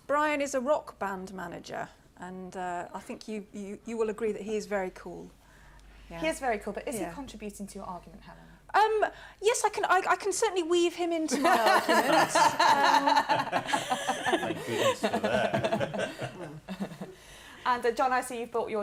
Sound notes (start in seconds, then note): 11.3 laughter